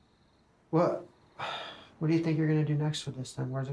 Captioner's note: sighs